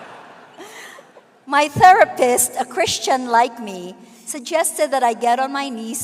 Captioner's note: laughter